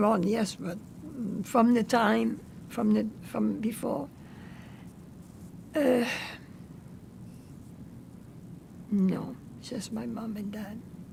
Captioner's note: sighing